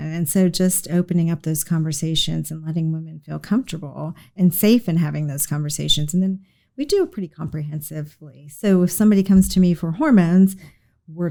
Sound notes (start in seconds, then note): none